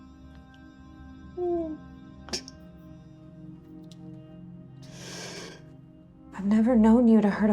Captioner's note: whimpering